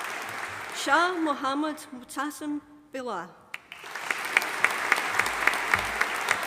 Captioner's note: audience applauding